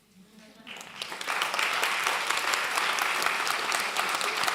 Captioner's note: clapping